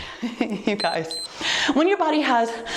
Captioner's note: timer beeps